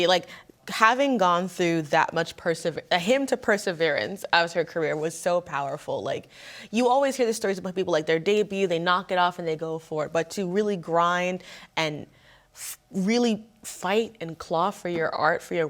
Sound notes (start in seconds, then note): none